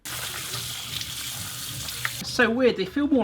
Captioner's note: water rushes